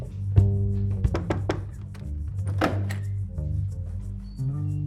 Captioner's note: loud knocking